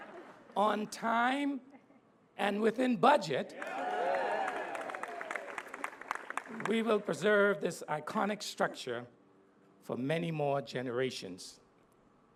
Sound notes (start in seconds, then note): 3.5 applause